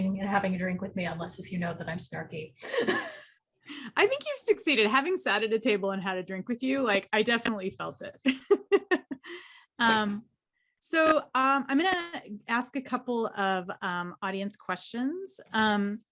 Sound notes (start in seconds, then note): 2.6 chuckles; 8.2 laughs